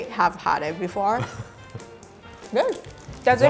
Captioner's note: laughing